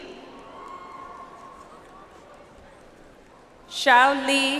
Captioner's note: audience applauds